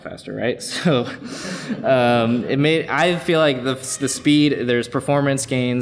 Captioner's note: laughs